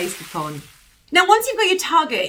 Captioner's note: whooshing sound